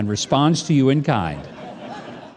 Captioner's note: audience laughing